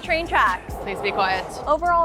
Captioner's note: train tracks whirring